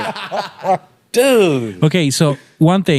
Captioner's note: laughing